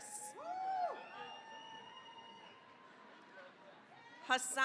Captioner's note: cheering, applause